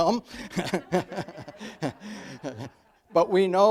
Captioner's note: audience laughs